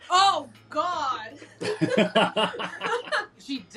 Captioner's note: laughing